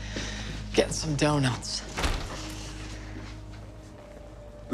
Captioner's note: door opens